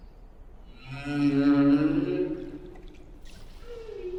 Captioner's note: whale singing